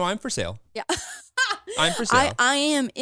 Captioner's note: laughs